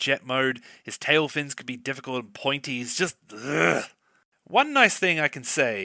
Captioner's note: groan